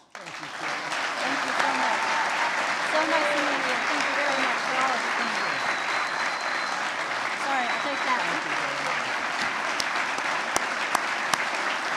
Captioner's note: applause